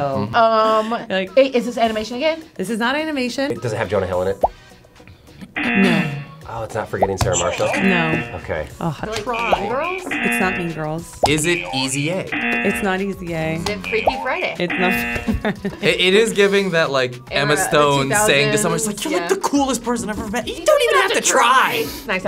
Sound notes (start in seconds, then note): 5.4 graphic popping; 5.5 buzzer razzing; 11.2 buzzer razzing; 13.5 graphic popping; 13.6 buzzer razzing